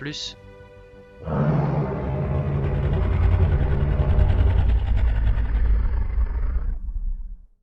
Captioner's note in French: Rugissement